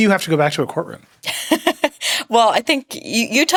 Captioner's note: laughing